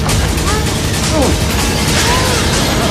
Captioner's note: groaning